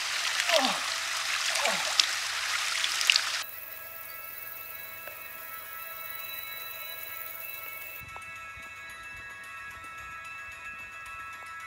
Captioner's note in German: Stöhnen